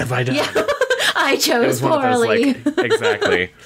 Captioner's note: laughing